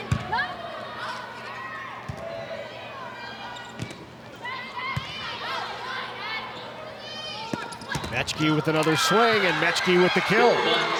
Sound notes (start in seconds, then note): 0.2 ball thumping; 2.0 players shouting indistinctly